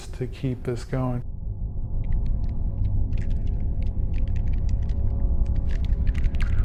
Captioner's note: unsettling music; alien clicking